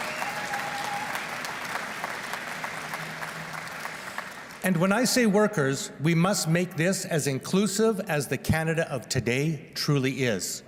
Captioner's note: applause